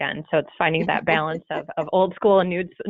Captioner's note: chuckling